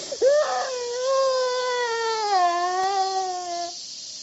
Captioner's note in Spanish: llorando más fuerte